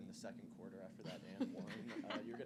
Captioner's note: laughter